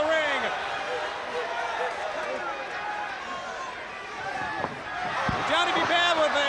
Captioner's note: crowd cheering